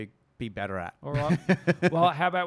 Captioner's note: laughs